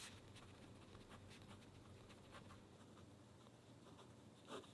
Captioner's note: pen scrapes